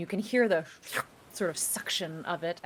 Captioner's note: mimics slurping